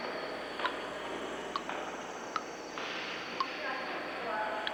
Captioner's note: liquid dripping